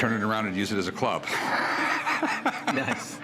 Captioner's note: laughter